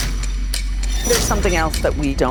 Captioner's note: ominous music; air whooshing